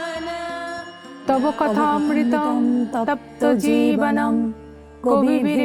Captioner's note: chanting